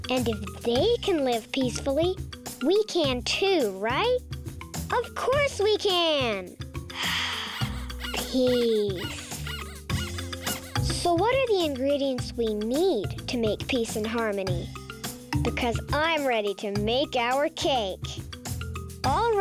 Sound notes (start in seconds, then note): 6.9 sighs; 7.6 rabbit squeaking